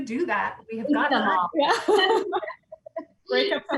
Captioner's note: loud laughs